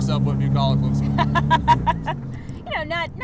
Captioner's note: laughing